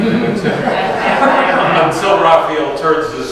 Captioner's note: audience laughs